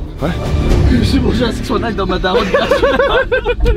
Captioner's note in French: rires